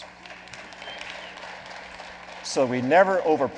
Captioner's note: clapping